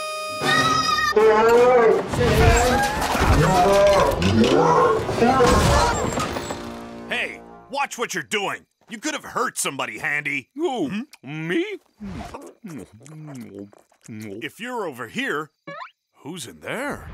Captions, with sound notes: [screaming] [groaning] Hey, watch what you're doing! You could have hurt somebody Handy! Who, me? If you're over here, who's in there?